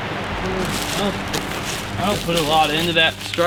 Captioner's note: leaves crunch